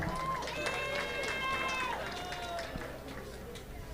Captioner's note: audience clapping